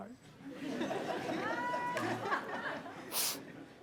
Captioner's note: laughter; sniffles